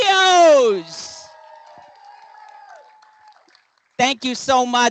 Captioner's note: applause